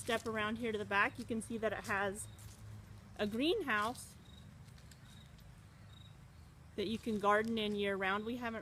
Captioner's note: sound of leavings crunching under feet